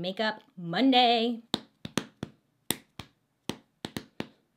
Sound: hand tapping

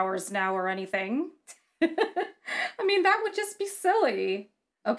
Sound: laughs

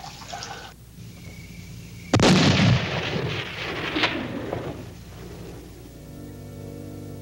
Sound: crickets chirping; gun booming; sorrowful music

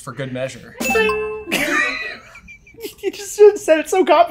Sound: ding

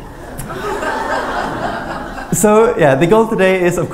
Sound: laughter

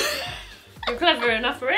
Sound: laughs

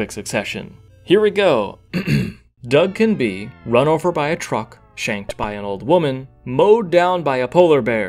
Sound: ahem

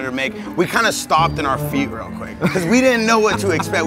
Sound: laughs

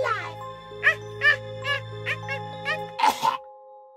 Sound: Evil Elmo laugh

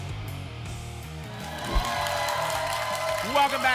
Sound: applause and cheering

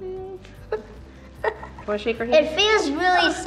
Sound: giggling nervously

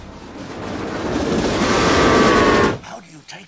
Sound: train whistle

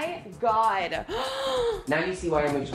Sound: gasping

